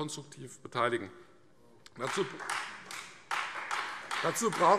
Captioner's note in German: Beifall Freie Demokraten